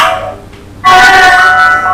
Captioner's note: phone ringing